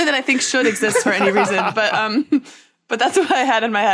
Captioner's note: others laughing